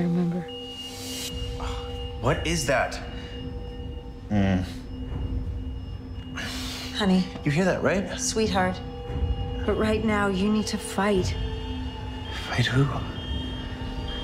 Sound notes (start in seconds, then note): 1.5 high-pitched trilling; 4.2 groans; 5.9 trilling continues